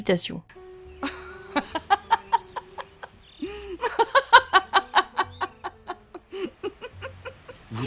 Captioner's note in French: rire de Gina